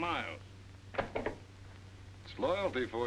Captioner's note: ledger clatters on desk